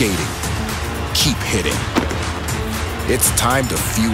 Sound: thud

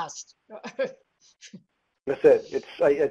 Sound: laughs

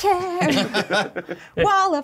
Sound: co-hosts laughing

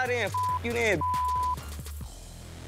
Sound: beep

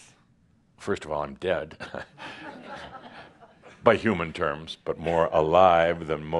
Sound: some laughter

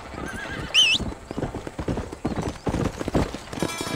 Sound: John whistling; horse galloping

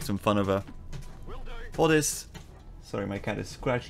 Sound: scritch scratch

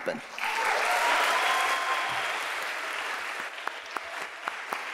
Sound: audience applauding

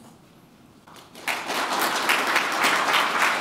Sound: applause

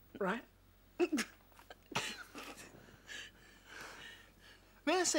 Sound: chuckling

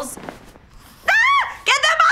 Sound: Whitney screams

